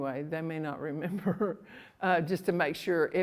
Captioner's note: laughs